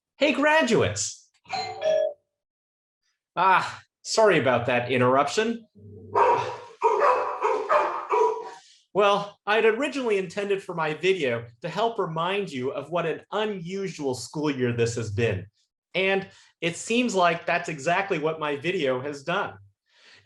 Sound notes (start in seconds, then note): 1.5 bell rings; 6.1 dog barks